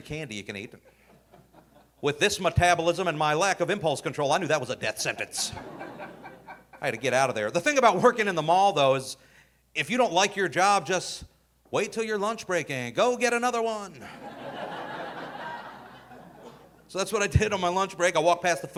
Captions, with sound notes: is all the free candy you can eat. With this metabolism and my lack of impulse control, I knew that was a death sentence. (audience laughing) I had to get outta there. The thing about working in the mall though is if you don't like your job, just wait till your lunch break and go get another one. (audience laughing) So that's what I did on my lunch break.